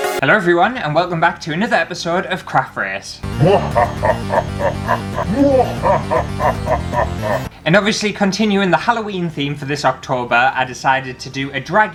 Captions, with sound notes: Hello everyone and welcome back to another episode of Craft Race! *Spooky Laughter* And obviously continuing the Halloween theme for this October, I decided to do a Dracula